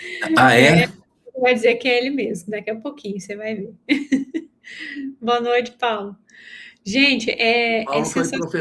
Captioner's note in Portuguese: risadas; risadas